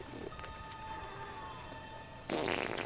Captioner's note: bobby farts